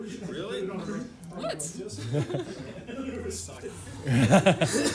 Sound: laughter

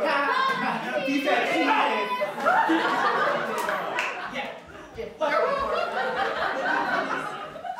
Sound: FLASH hype noises

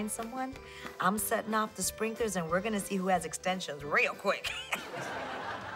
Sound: laughs

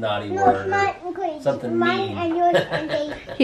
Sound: laughs

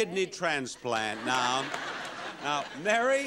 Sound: audience laughing

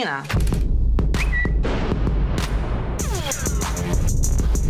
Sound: Twitter whistle

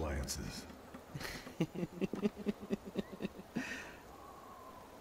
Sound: laughs

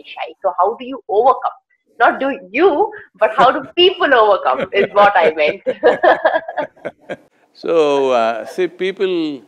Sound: both laugh

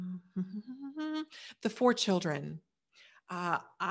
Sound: humming

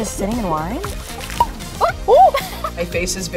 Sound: cork pops; laughing

